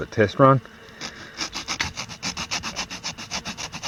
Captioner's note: sawing